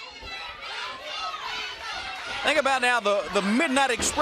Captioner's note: crowd chatter